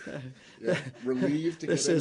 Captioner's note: laughter